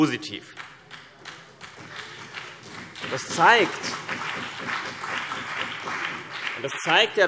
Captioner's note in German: Beifall BÜNDNIS 90/DIE GRÜNEN und vereinzelt CDU